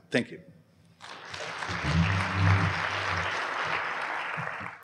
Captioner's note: applause